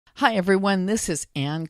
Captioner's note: voiceover